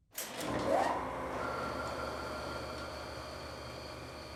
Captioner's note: machinery whirring